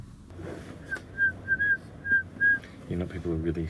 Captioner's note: whistling